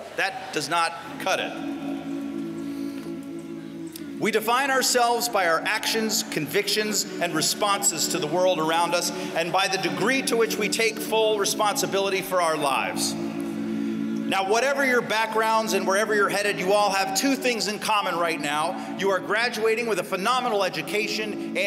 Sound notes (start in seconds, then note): 1.5 humming